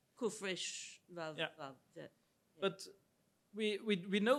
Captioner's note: speaks in Hebrew